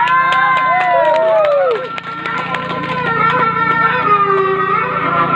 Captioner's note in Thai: ปรบมือ